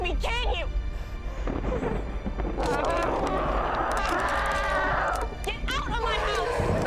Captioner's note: bones cracking; Noah gasps and screams